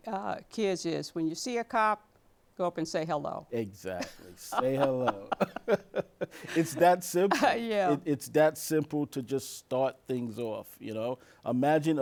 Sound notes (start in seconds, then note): 4.0 laughs